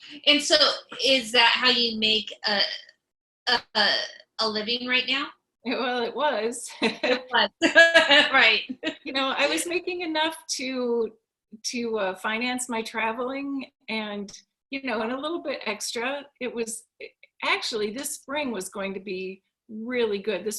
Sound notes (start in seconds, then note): 6.8 chuckles; 6.8 laughs